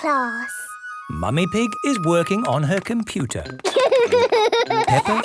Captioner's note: laughter